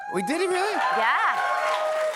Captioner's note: cheers and applause